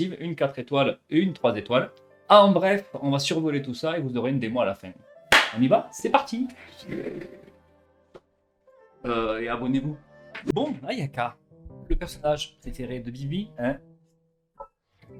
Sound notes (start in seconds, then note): 5.3 clap